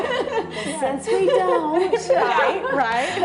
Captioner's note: laughter